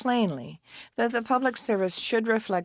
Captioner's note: speaking French